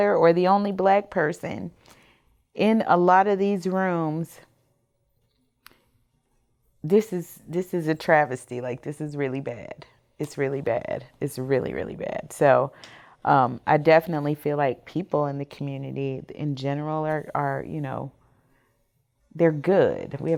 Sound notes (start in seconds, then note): none